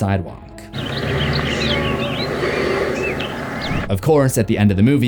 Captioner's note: birds chirping; Michael heavy breathing